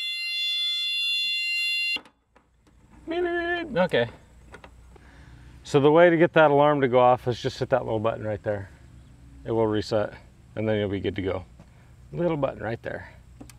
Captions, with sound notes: (alarm shrilling) (mimicking alarm) Okay. So the way to get that alarm to go off, is just hit that little button right there. It will reset, and then you'll be good to go. Little button right there.